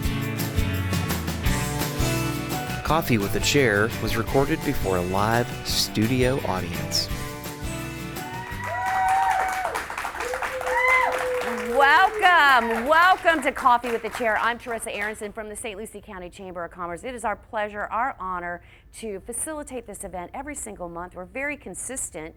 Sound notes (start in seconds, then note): 0.0 upbeat music; 8.2 audience cheers